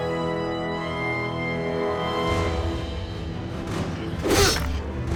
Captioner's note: sounds of struggle